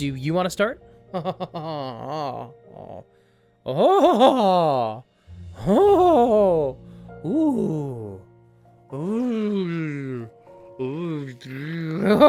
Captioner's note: fascinated giggling